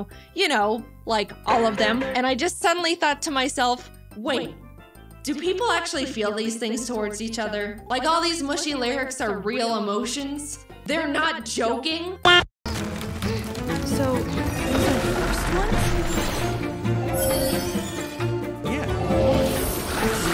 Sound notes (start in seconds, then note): 2.0 pitched down